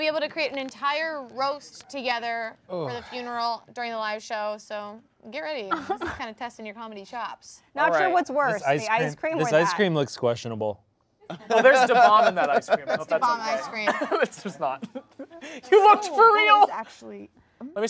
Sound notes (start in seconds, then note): 2.7 groaning; 5.7 laughing